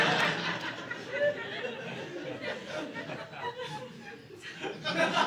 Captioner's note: audience laughing